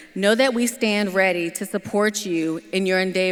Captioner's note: none